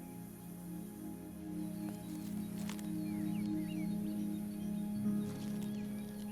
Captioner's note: slow soft music; birds chirping